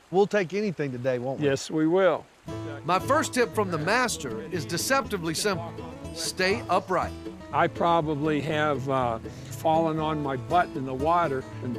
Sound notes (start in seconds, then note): none